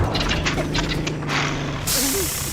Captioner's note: engine sputters